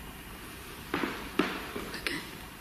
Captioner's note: tapping